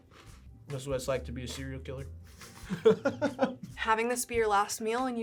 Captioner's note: laughs